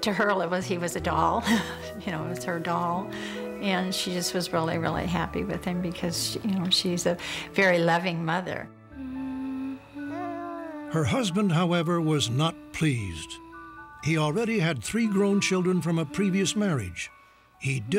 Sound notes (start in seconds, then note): 1.5 chuckles; 8.9 humming; 8.9 baby coos